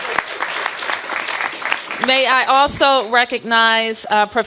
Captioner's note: applause